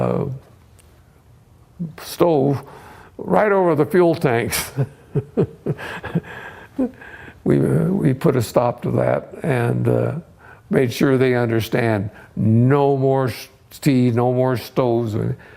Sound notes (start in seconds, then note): 4.5 laughs